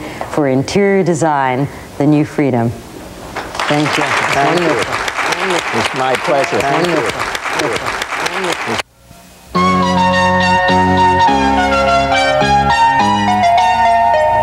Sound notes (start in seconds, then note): 4.8 audience applauds; 9.6 upbeat electronic keyboard baroque music